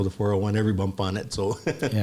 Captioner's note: laughs